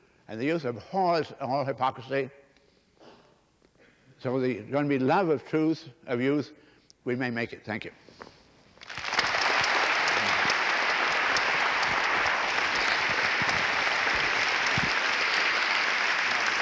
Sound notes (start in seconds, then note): 8.8 applause